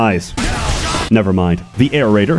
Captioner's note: explosion